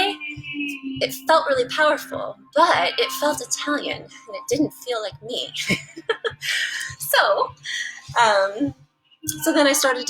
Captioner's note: laugh